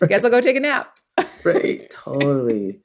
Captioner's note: laughter